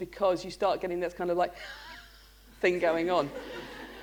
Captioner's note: laughter